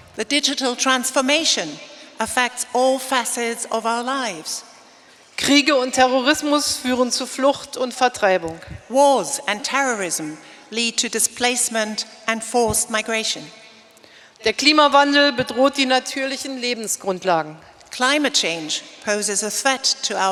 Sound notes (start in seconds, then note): 0.0 speaking in German; 5.5 speaking in German; 14.7 speaking in German